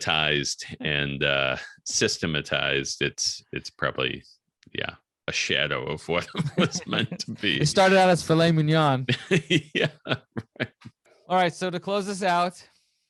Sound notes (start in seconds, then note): 9.1 laughing